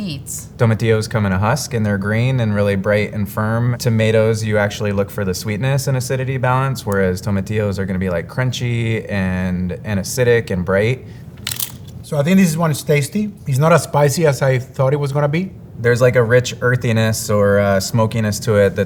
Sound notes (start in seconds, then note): 11.2 mouth crunching